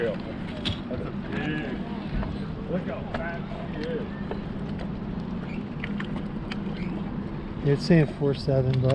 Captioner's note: background chatter